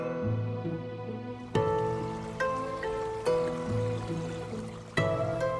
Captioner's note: water trickling